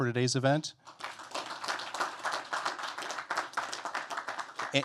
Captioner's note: applause